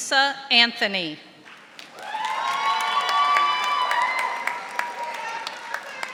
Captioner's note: audience applauding